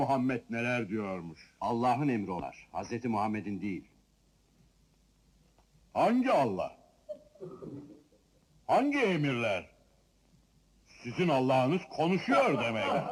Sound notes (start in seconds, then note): 7.1 people chuckling